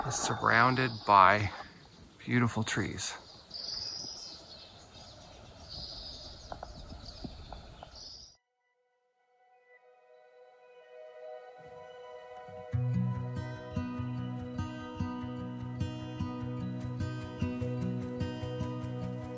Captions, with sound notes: is surrounded by beautiful trees. (birds chirping) (gentle acoustic music)